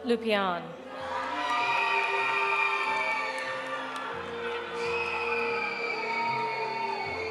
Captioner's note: audience cheering; audience applauding